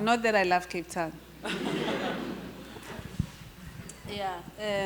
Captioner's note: audience laughter